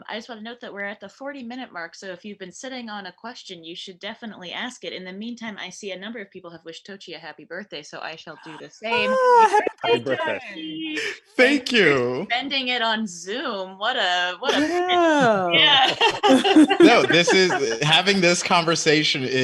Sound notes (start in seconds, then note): 12.0 chuckles; 14.4 all laughing